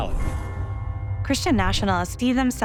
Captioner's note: bell chimes